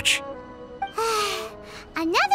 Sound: sigh

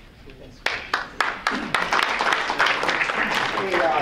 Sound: applause

